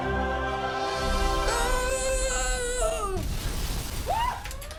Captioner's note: shrieks